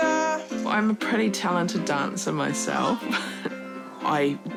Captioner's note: chuckles